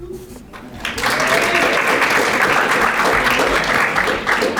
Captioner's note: audience applauding